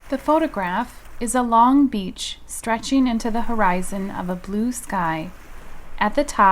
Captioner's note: waves